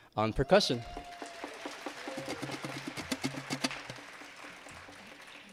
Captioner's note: attendees clapping and cheering